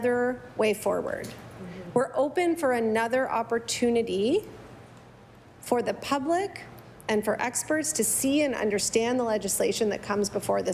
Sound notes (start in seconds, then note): none